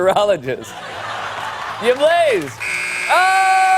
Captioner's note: buzzer